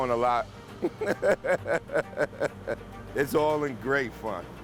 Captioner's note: laughing